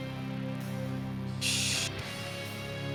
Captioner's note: hisses